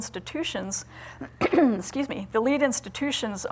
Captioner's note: coughs